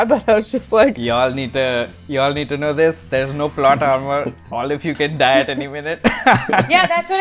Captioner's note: laughter